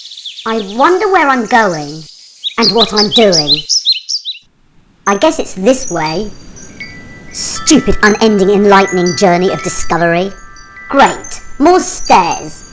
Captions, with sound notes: "I wonder where I'm going?" "and what I’m doing" [Wind chimes] “I guess it's this way”. "Stupid unending enlightening journey of discovery" "Great. More stairs"